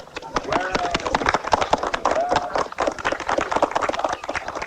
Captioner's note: applause